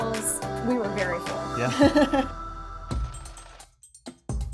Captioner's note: laughs; mellow music